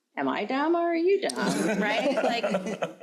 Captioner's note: crowd laughing